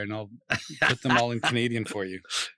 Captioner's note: laughs